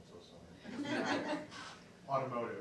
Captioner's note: laughing